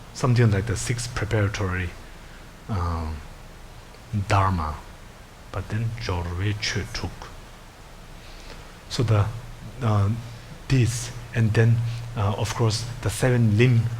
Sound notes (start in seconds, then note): 6.0 speaking in foreign language